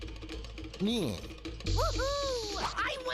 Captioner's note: jeers